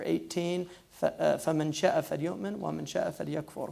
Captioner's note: foreign language